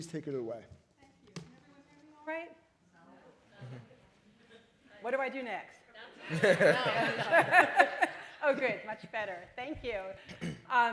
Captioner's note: laughter